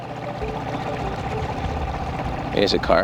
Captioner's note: boat motor hums